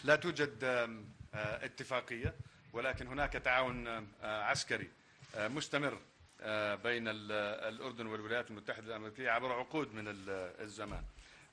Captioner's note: in Arabic